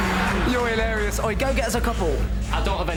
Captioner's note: laughs